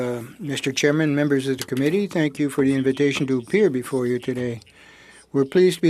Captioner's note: speaking French